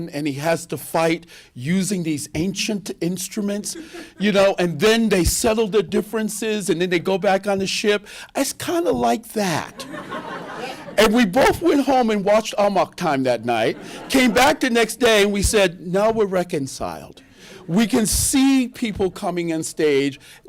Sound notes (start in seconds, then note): 9.7 laughter